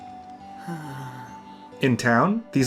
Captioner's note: sigh